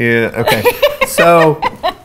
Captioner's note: laughs